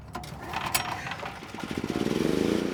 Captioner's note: engine running